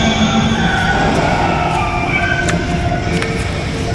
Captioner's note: screams, crashes